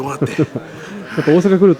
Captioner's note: speaking in Kansai dialect